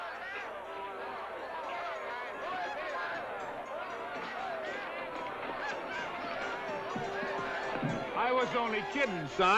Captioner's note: jovial crowd commotion